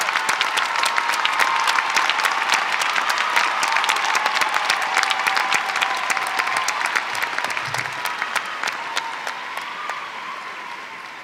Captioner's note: applause